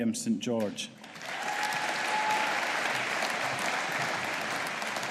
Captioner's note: audience applauding